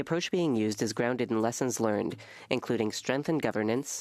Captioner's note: speaking French